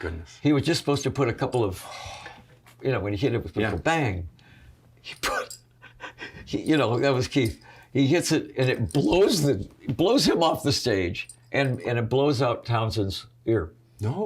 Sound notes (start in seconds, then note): 5.8 chuckles